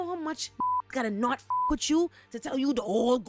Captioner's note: beep